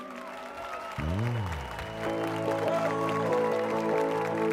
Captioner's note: applause and cheers